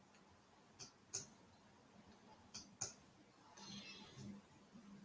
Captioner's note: mouse clicking